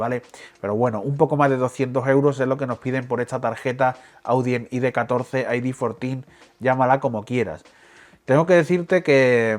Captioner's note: spanish